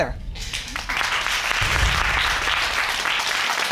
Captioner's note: audience applauding